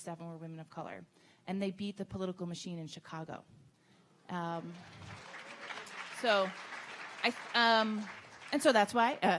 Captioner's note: audience clapping